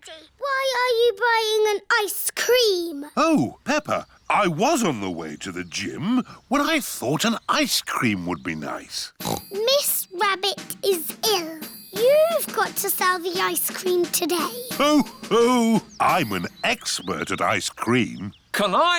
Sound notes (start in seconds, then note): 9.2 snorts; 14.2 laughs